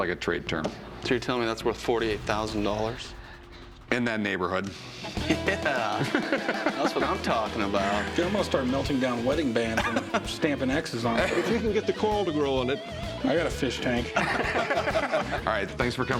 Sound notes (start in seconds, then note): 14.1 laughter